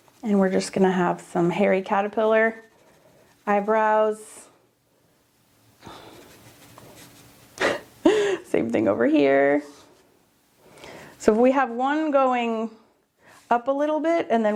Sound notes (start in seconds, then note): 7.6 chuckles